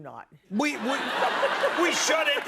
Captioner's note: laughter